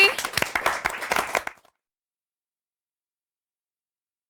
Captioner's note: applause